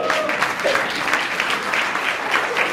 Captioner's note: applauds; cheers